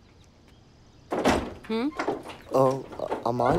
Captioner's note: Door opening